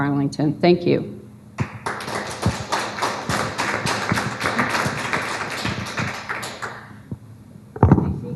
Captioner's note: applause